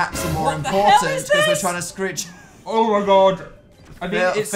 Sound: giggling

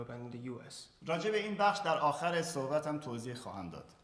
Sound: speaking in farsi

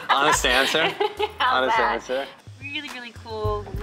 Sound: laughs

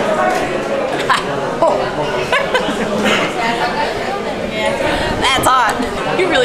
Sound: laughs; coughs

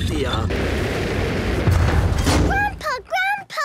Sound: thuds

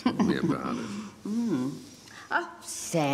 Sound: both chuckling

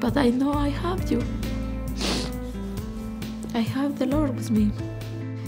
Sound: sniffs

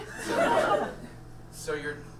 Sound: audience laughs

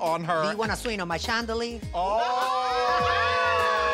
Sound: overlapping cheers and laughter

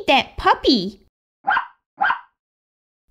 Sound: bark! Bark!

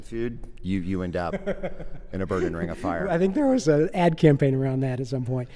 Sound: laughing

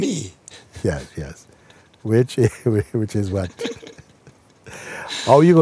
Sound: laughs

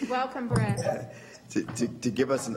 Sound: feedback

